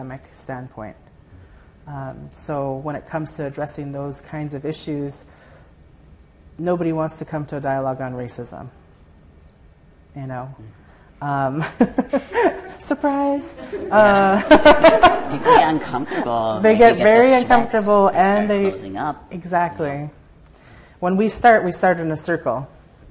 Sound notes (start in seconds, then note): 13.5 laughter